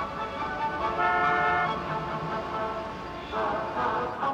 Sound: car horns honking

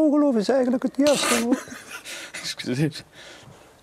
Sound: laughs

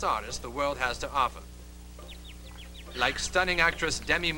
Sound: birds tweet

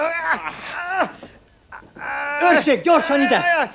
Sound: screams

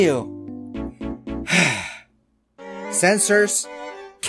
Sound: sigh

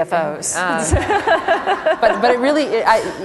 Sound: laughter

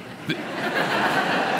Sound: light laughter

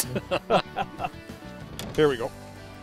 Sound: laughter

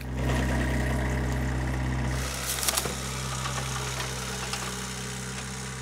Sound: equipment whirring

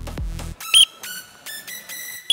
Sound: whistle

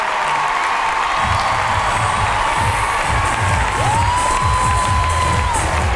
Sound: cheering; dance music

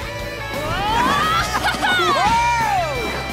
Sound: whooping and cheering

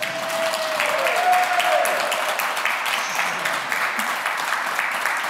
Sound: cheering and applause

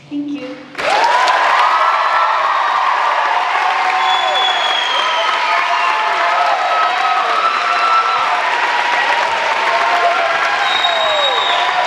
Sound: cheers and applause

